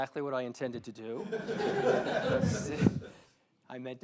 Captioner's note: all laughing